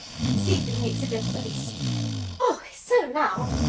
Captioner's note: loud snoring